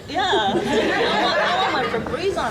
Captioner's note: audience laughing loudly